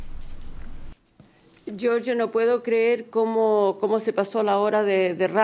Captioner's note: speaking spanish